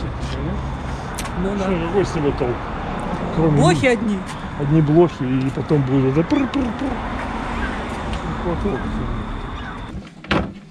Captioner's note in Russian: Смеется